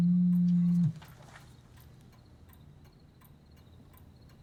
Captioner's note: cell phone buzzing